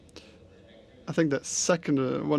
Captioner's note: speaking french